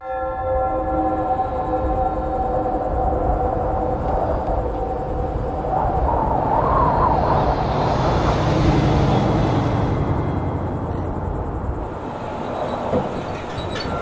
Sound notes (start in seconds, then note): 0.0 loud bell rings; 4.7 wind whistling